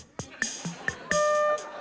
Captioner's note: laughter; note two plays